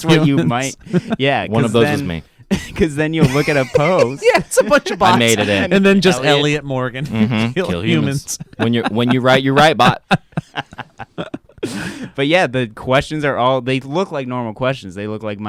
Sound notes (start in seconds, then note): 0.0 laughs; 3.2 laugh